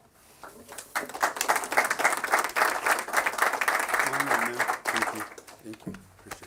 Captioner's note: applause